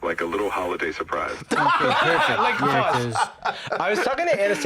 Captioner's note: laughs